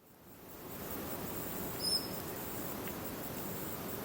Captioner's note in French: sons de la nature